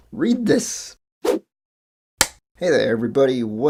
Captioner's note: whoosh, film clapper sound